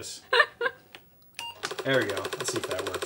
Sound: laughing

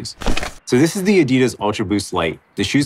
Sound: paper crumpling

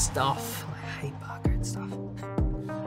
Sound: faintly speaking

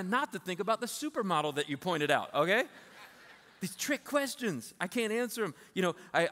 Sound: laughter

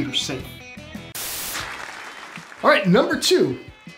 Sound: static hissing

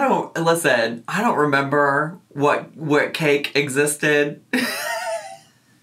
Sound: laughs

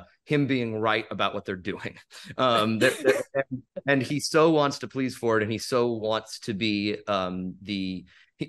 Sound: laughs

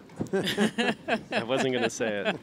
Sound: laughter

